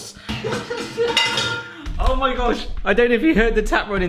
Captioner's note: crashing metal